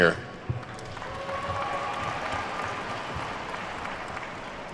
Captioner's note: attendees clapping